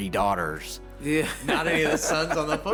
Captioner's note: laughs